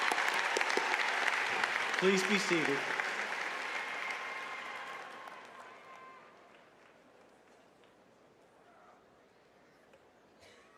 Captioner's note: cheers and applause